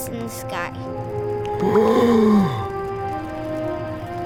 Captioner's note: gasps